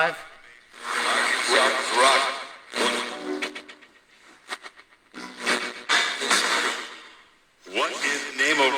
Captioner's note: radio static